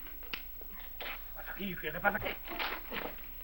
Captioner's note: speaking spanish